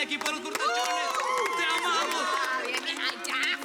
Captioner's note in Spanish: Aplausos